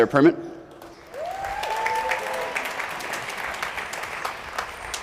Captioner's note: applause